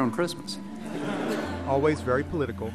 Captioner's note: laughter